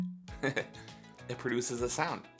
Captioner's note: chuckles